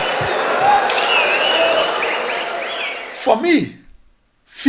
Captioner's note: wild applause and cheering for 22 seconds